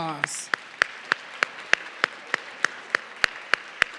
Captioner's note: audience clapping